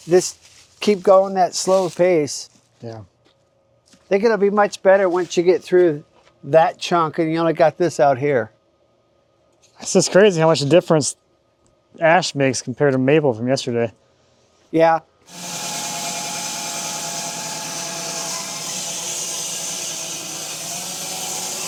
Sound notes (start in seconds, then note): 15.2 saw buzzing